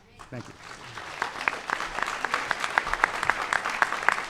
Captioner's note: applause